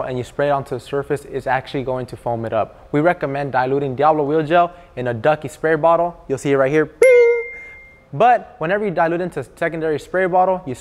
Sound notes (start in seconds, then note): 7.0 dings